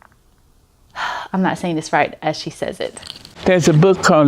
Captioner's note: sighs